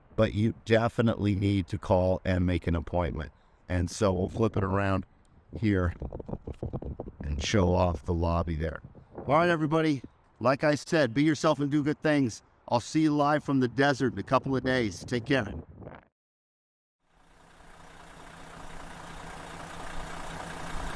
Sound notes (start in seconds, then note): 17.2 engine rumbling